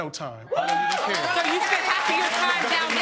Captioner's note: audience cheering